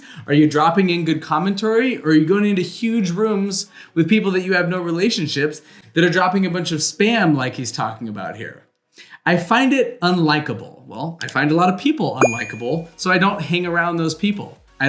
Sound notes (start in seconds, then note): 11.2 mouse clicking; 12.2 bell ringing